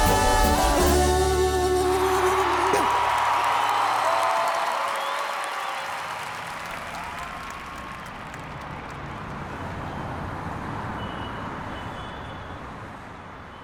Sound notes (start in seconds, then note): 2.1 spectators cheering; 8.6 traffic bustling